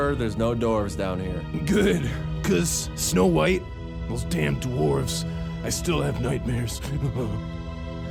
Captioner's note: shudders